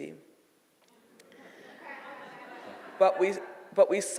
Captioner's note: audience laughing